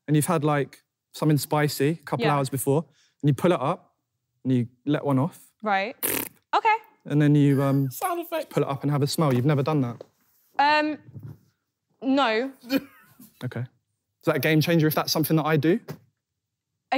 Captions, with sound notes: And you've had like something spicy couple hours before... - Yeah. - ...and you pull it up and you let one off. - Right? (farting) - Okay. - And then you um... - Sound effects. - ...pull it up and have a smell, you've never done that? - Um, no. - Okay. Is that game changer if that's something that I do?